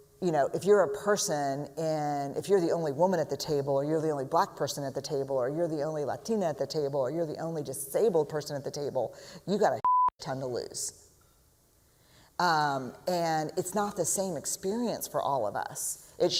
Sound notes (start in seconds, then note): none